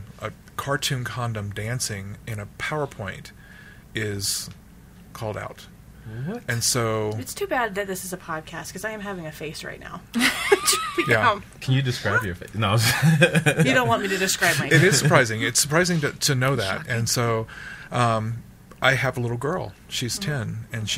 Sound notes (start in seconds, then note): 10.6 laughs; 12.8 laughs